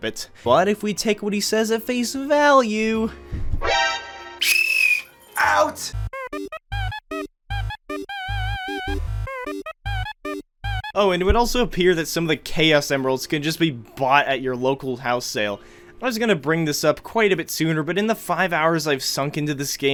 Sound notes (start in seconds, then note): 4.4 whistle